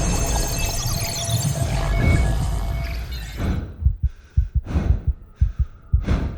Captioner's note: heavy breathing